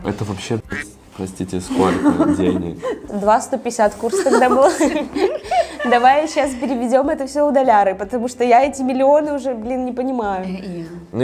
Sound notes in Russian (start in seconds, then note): 5.3 смех